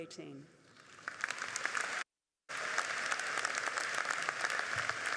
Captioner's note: audience applauding